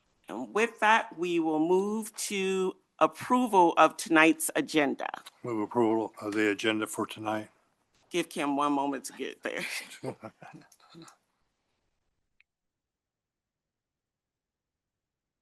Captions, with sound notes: And with that, we will move to approval of tonight's agenda. - Move approval of the agenda for tonight. - Give Kim one moment to get there. (both laughing)